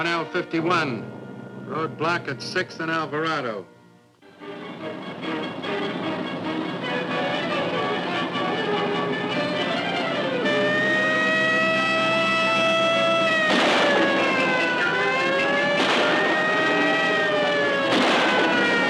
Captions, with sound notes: 1L51, roadblock at Sixth and Alvarado. (suspenseful orchestral music) (siren wailing) (gunshots firing)